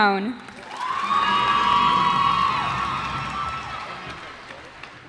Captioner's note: cheers and applause